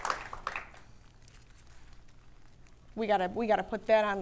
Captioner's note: audience applauding